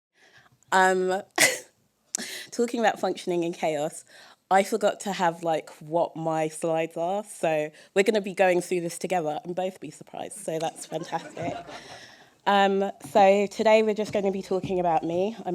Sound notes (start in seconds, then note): 1.1 chuckle; 10.7 laughter